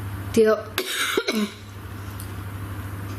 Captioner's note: coughs